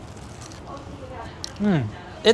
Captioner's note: chicken crunches